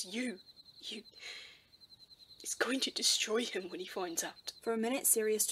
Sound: James' voice breaks

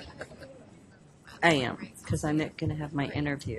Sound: voiceover

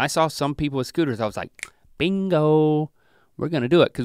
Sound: snaps fingers

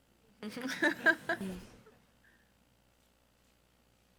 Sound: crowd chuckle

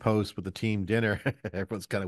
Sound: chuckles

